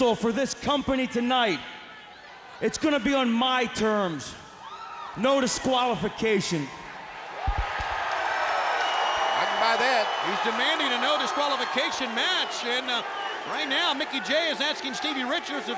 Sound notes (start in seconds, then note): 7.4 mic thudding; 8.4 crowd cheering